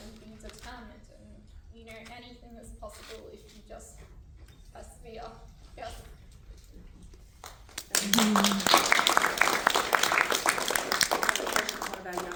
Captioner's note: applause